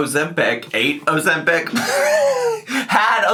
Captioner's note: laughs